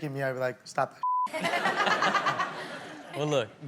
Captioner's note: beep; all laugh